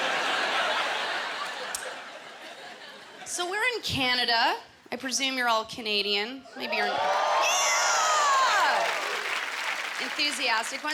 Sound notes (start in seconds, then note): 0.0 laughter; 6.7 cheers and applause